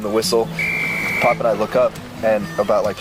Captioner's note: whistle trilling